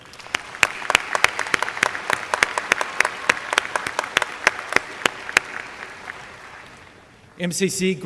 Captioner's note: applause